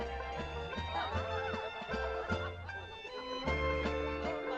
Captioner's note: band playing; people chattering